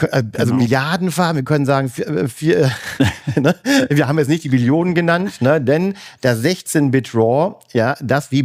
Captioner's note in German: gelächter